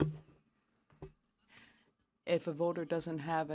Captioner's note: speaking French